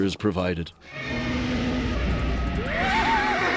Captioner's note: creature roaring; screaming